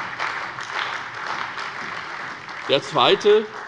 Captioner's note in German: Beifall